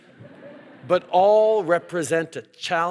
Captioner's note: rires - laughter